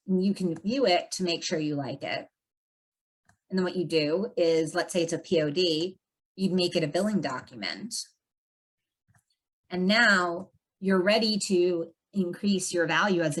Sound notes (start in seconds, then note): none